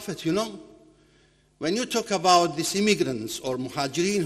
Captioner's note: foreign language